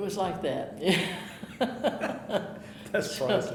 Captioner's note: chuckling